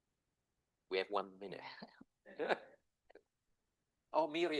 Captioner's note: chuckles